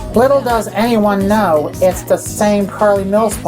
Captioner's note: voice-over